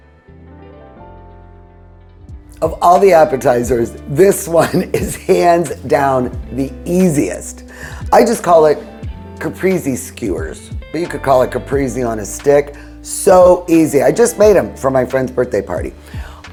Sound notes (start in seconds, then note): 0.3 upbeat music; 4.9 chuckles